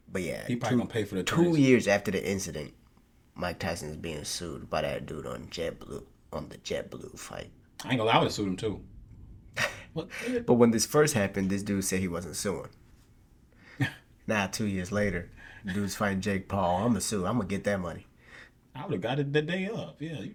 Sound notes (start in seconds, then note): 9.5 laughing